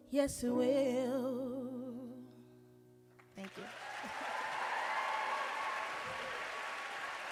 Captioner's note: applause and cheering